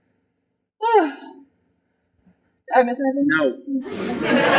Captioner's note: sigh